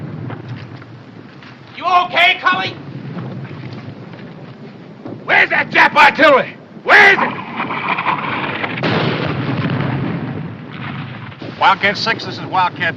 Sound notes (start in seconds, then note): 7.2 artillery whizzing, explodes